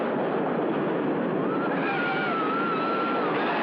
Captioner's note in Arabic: صراخ